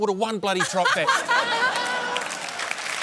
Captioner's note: laughs